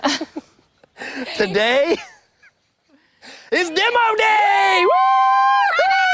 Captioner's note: laughing